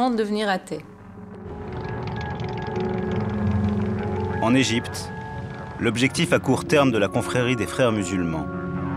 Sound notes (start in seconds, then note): 2.1 engine noise; 2.7 background music